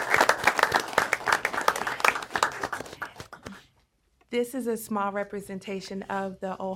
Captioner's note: applause